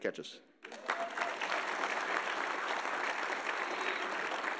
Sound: audience applauding

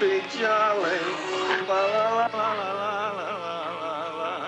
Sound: unsteady dramatic music; slurping

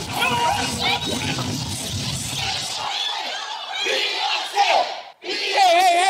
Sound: crowd screaming

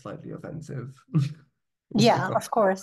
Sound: laughing

